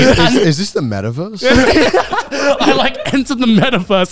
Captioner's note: laughing